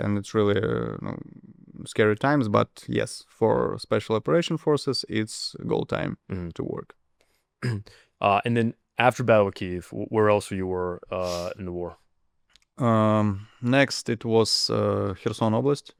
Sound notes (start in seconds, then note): 7.6 clears throat